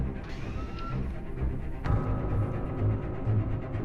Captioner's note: whirring